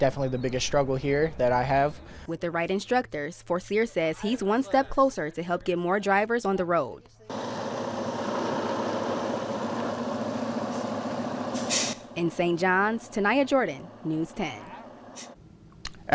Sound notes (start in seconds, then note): 7.4 sound of truck driving; 9.2 sound of truck driving; 12.0 sound of truck driving